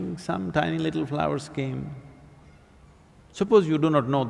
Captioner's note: none